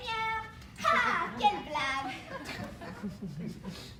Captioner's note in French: rires